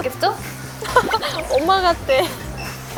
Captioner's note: pat, pat